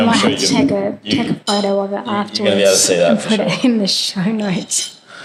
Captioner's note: laugh